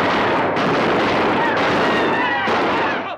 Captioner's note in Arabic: الرجال يصرخون